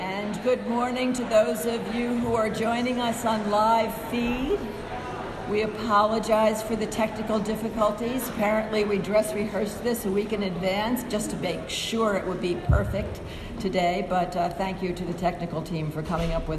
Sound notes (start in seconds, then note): none